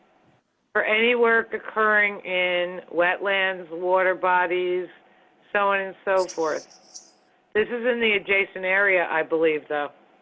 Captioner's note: phone